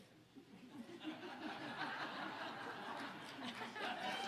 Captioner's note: audience laughing